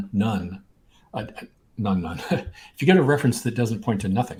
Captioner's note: laughs